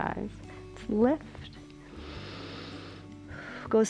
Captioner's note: inhales